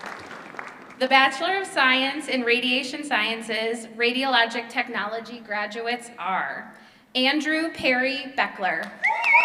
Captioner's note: applause